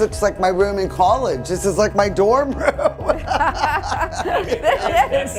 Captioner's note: laughing